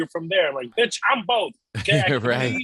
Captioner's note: beep